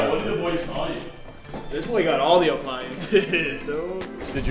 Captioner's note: laughs